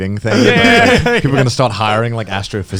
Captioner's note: laughing